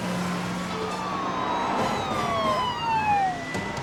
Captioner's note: sirens wail